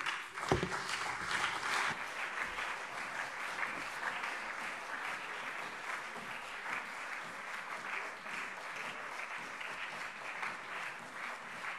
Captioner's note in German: Lang anhaltender Beifall CDU und SPD